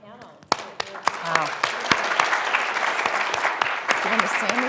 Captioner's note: applause